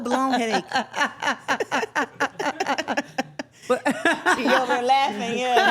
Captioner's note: everyone laughing